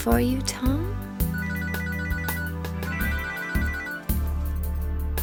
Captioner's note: phone ringing